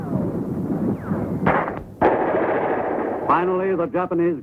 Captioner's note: artillery firing